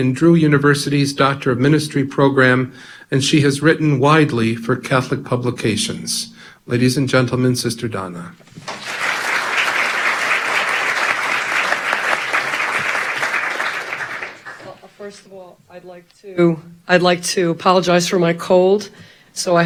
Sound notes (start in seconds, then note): 8.5 audience applause